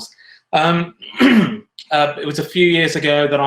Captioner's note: clears throat